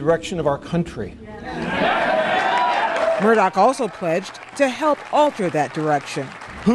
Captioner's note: cheering and applause